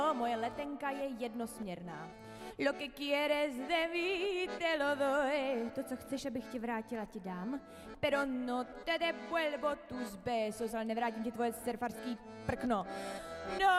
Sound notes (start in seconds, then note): 0.0 sings in Spanish; 0.2 speaks Czech; 2.7 sings in Spanish; 5.8 speaks Czech; 8.1 sings in Spanish; 10.8 speaks Czech